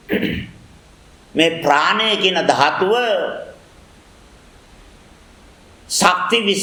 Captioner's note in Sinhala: උගුර කෑරීම